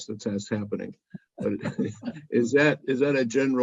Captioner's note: laugh